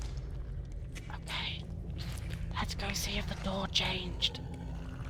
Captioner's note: whispers